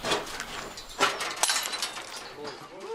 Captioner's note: clinking